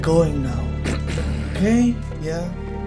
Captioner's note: disapproving grunt